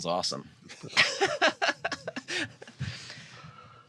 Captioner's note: laughs